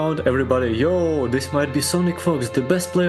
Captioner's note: none